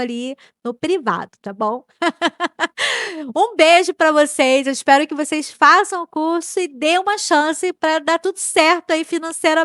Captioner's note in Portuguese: risadas